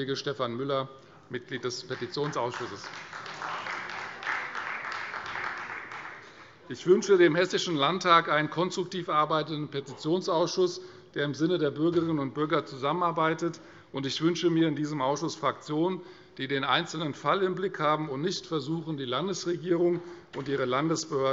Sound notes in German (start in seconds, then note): 4.3 Beifall Freie Demokraten